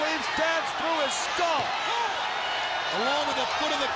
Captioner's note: crowd chatter